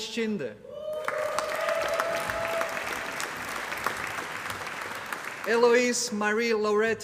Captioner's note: applause